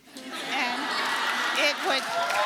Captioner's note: audience applauding